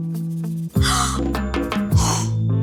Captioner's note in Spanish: Grito ahogado